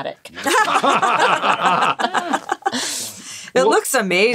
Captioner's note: all laughing